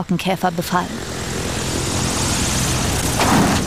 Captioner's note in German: Motorenlärm